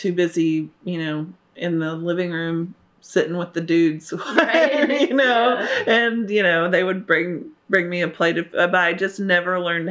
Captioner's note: laughter